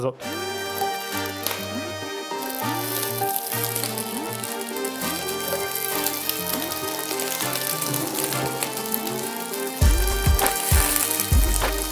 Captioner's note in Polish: W tle słychać trzeszczenie